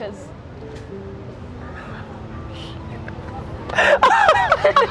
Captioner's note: laughing